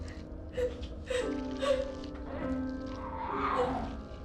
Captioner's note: Sarah sobs